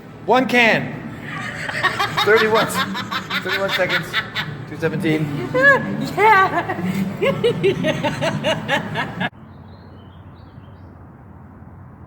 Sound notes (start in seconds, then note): 7.6 laughs